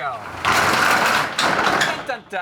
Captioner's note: door rattles